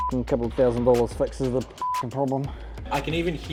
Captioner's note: beep